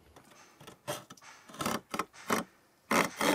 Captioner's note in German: Kratzen